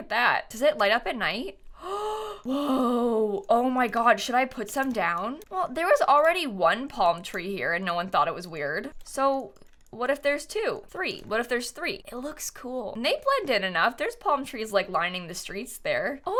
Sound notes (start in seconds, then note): 1.8 gasps